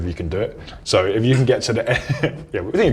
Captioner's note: laughs